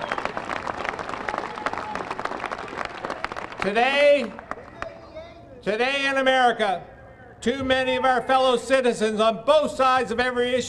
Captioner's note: applause